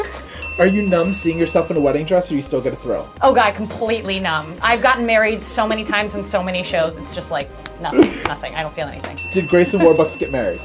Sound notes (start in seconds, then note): 0.3 ding; 7.4 slaps face; 9.1 ding